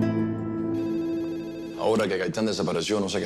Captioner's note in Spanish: Teléfono al sonar